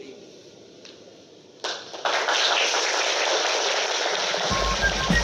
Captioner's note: applause